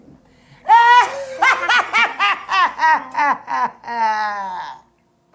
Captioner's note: both laughing